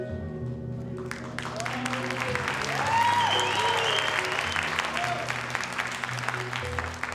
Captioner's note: audience applauding; audience cheering